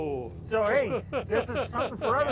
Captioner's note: laughing